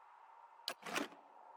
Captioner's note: icy, soft wind; click; wind